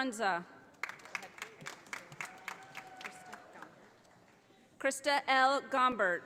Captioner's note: audience applauding